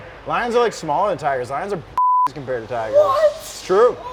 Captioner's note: beep